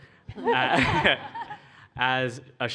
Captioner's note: laughter